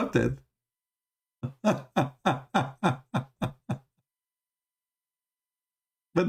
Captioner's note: Ketawa